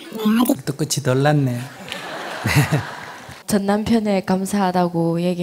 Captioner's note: audience laughs